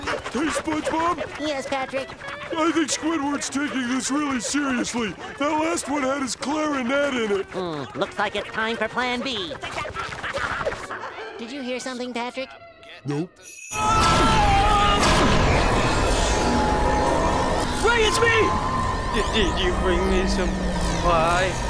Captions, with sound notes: - Hey, SpongeBob? - Yes, Patrick? I think Squidward's taking this really seriously. That last one had his clarinet in it. Looks like it's time for plan B. [screaming] - Did you hear something, Patrick? - Nope. [screaming] - Ray, it's me! - Did you bring me some pie?